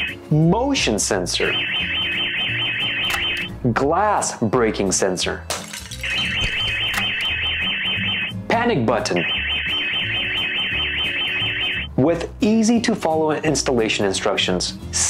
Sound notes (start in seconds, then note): 0.0 alarm ringing; 1.4 alarm ringing; 5.5 breaking glass; 6.3 alarm ringing